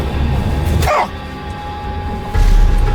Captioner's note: Chris exclaims